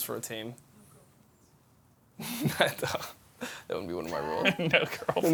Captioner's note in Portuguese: risos